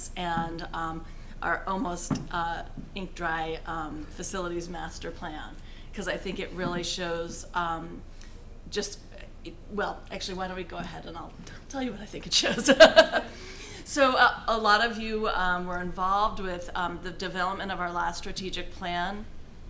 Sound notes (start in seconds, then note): 12.4 laughing